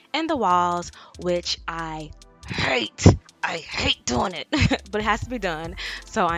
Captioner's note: chuckles